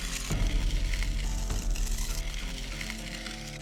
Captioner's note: tools scraping